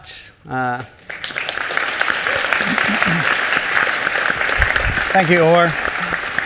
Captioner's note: applause